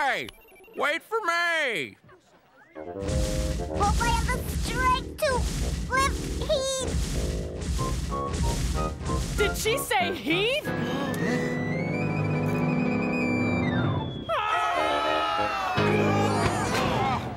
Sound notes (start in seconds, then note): 10.7 all gasp; 14.2 all screaming as Heath falls; 15.7 loud thud